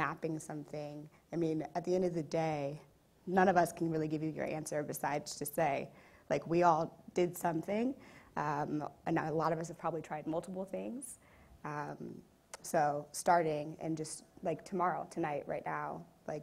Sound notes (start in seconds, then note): none